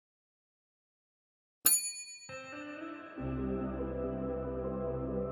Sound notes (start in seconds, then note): 1.7 bell dings; 2.4 gentle music